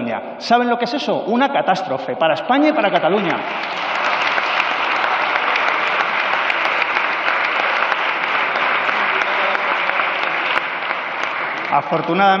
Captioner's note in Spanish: Aplausos